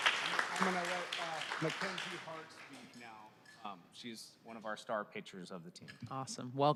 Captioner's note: applause